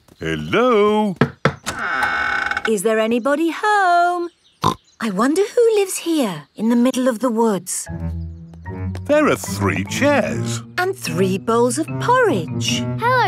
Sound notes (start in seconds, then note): 1.2 door creaks; 4.9 snorts